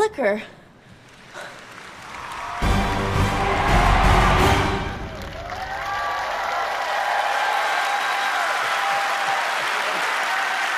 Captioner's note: applause